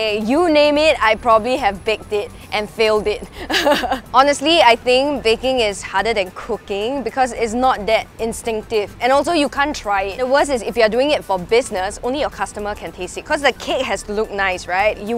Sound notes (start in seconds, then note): 3.2 laughs